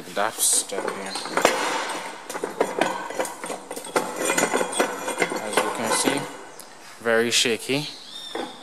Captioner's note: scraping noise